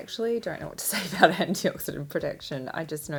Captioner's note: laughs